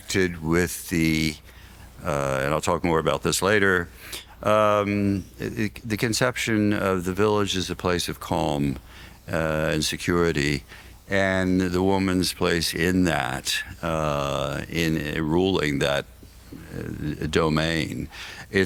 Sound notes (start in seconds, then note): none